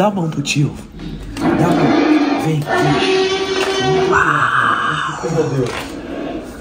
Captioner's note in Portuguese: sussurra